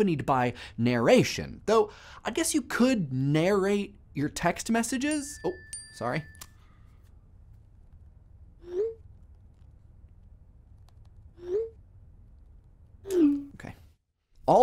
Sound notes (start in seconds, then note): 5.2 text message dings